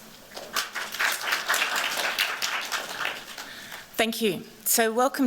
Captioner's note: applause